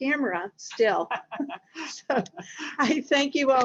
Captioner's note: laughs